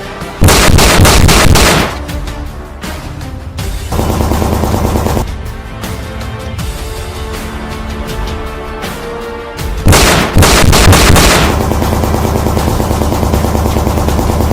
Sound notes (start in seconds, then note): 0.4 handgun shots banging; 3.9 shots banging; 9.8 gunshots banging